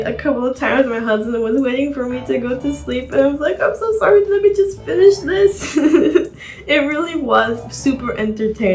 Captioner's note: chuckle